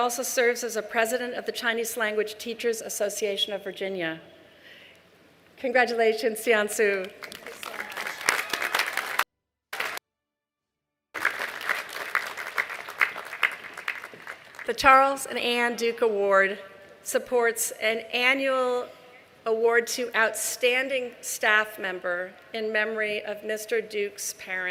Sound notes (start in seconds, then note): 13.4 applause